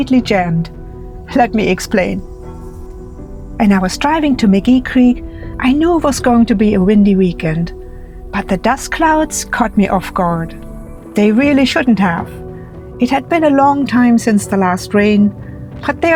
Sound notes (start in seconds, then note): none